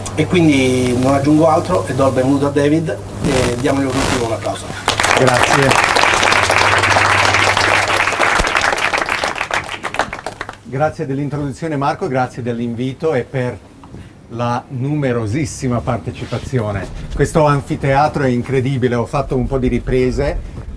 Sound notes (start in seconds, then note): 4.8 applause